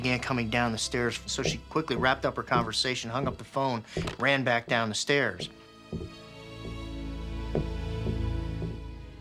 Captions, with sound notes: so she quickly wrapped up her conversation, hung up the phone, ran back down the stairs. [footsteps thudding]